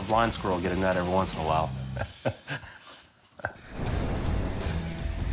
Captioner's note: laughing